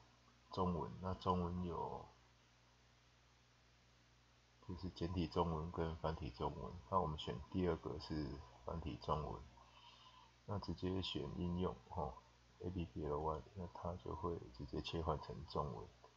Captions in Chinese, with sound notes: 中文、中文有 簡體中文 跟 繁體中文，我們選第二個(中文) 是繁體中文 直接點選應用，Apply 就會直接切換到中文